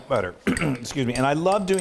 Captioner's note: clearing throat